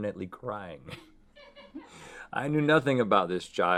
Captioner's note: woman laughing in background